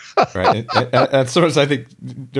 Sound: laughs

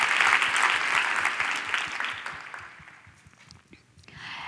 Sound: applause

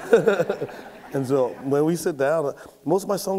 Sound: laughs; audience laughs

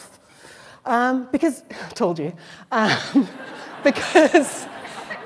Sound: laughter; laughs

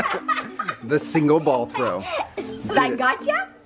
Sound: laughing

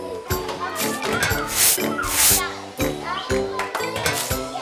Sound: sweeping

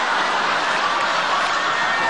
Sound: laughs

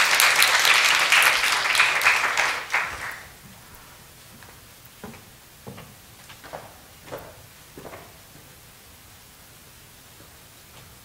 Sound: clapping

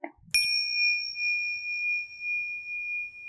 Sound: bell dings

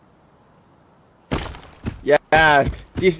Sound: gunfire

